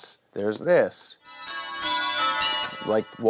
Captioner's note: bells ring